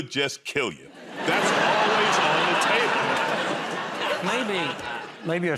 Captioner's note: laughter